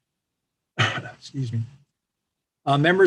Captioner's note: coughs